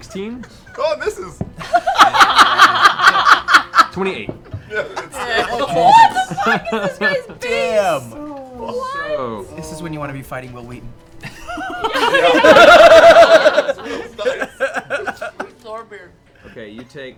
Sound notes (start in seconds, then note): 1.6 laughter; 11.2 laughter